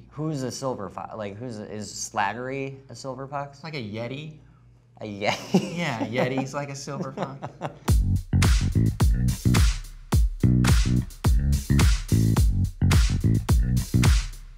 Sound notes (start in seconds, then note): 5.3 laughs; 7.8 groovy dance beat